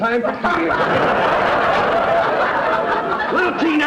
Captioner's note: audience laughter